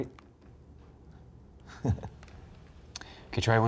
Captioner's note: chuckles